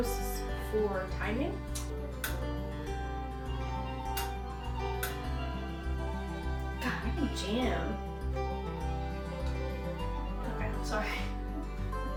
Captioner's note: chuckles